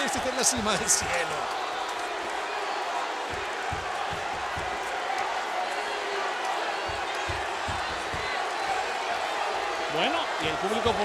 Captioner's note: applause